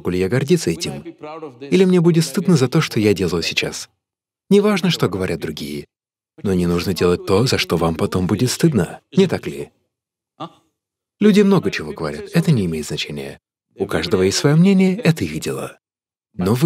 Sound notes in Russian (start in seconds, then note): none